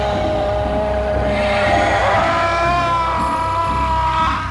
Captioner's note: shouting